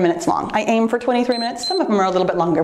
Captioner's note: timer beeps